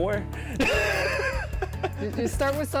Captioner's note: laughs